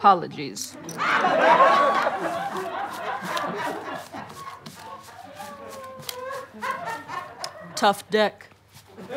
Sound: audience laughter

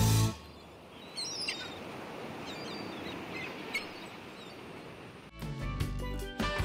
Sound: waves splashing; seagulls crying; relaxing reggae music

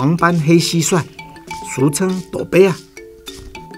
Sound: Taiwanese language

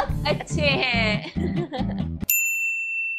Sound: laughing

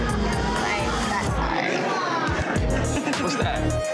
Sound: chuckles

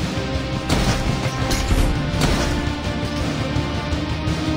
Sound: boss clanking

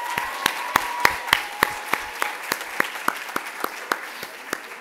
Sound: clapping

